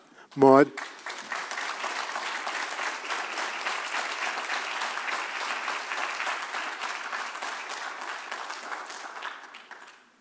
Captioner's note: applause